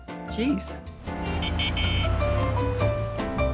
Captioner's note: horn honking